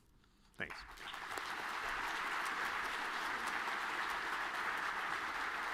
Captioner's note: audience clapping